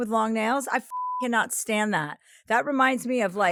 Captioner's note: beep